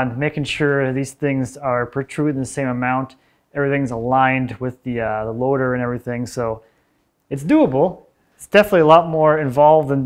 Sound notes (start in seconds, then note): none